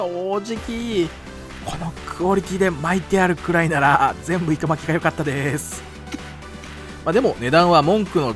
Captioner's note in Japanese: 小声で